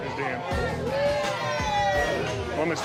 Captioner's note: cheering